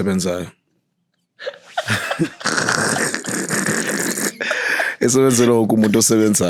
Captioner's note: laughing